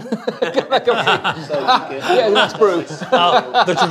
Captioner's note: laughter